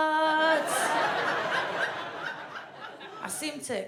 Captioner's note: audience laughs